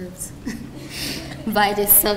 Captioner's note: chuckling